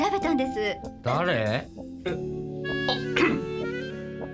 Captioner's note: cough